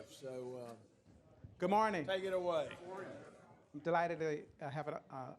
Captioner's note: gavel